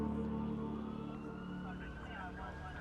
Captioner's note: sirens blaring